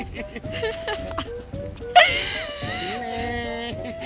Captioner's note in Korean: 웃느라 정신 못차림